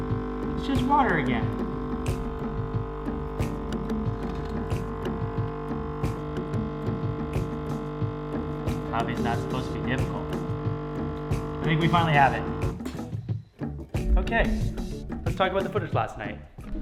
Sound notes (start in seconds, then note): 1.5 machine whirring